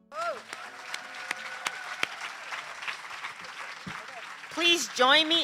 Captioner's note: applause